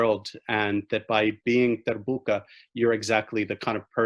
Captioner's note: speaking in foreign language